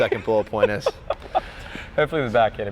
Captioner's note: laughs